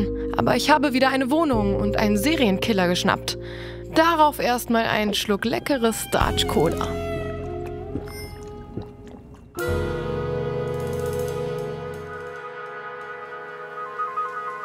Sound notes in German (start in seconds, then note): 6.8 Trinkgeräusche; 9.6 Lässige Klänge